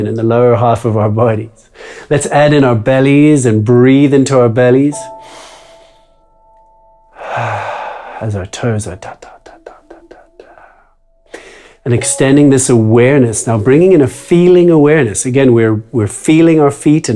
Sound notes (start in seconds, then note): 5.3 inhales; 7.1 exhales; 9.1 imitates drum music